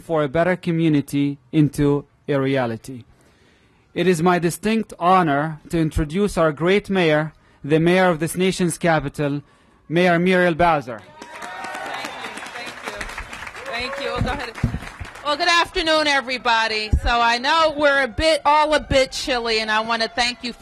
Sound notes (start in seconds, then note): 10.9 applause